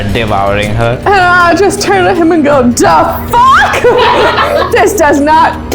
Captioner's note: laughter